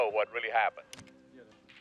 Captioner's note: tv turns off